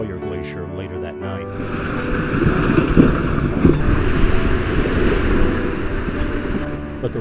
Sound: NAT SND: Glaciers calving

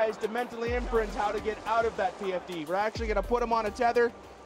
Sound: voiceover

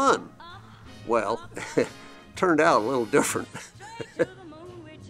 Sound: laughs

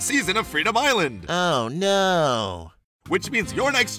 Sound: sarcasm

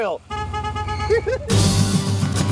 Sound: car horn honks

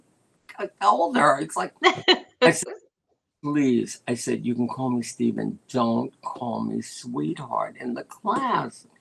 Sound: laughter

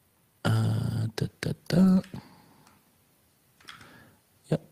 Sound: hums

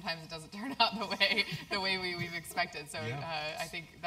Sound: laugh

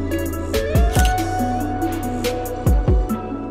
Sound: camera shutter clicks

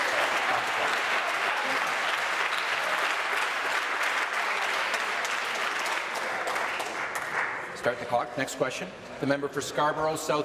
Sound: applause

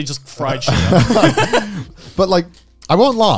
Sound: laughing

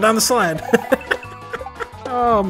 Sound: laughs

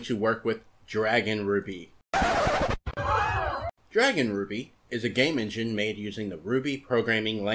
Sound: record Scratch and crowd gasp

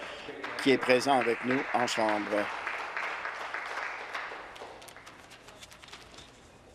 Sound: applause

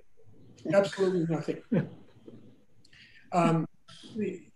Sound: laughs

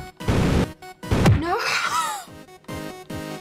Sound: wheezing

